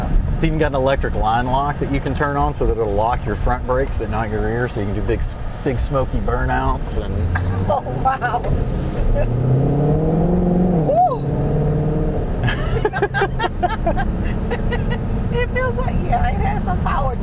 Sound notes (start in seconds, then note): 12.4 laughing